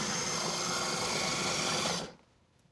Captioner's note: whirring; whirring stops